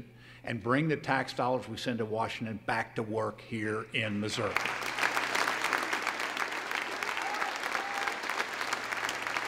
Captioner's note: applause